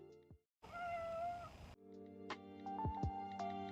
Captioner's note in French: miaulement